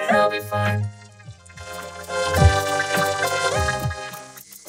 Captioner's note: Gloink squeaking rapidly